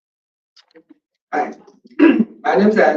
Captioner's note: clears throat